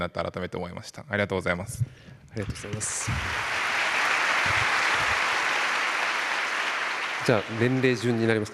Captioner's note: 拍手